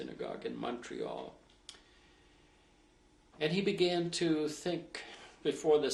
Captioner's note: pauses for 3 seconds